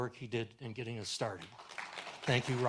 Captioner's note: audience applauds